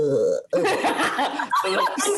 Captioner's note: laughing